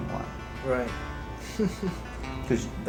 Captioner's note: laughter